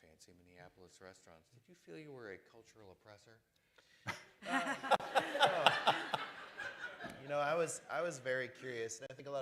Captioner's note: laughter